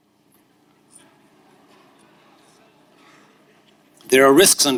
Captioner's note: audience laughing